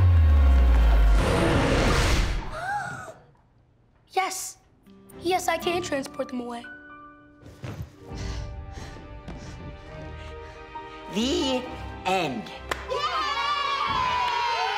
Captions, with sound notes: - ( gasps ) - Yes. Yes, I can transport them away. ( panting ) The end. ( cheering )